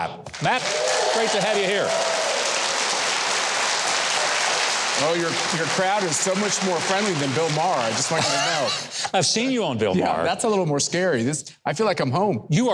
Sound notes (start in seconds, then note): 2.7 audience applauding; 2.7 audience cheering